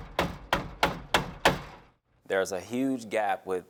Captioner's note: hammering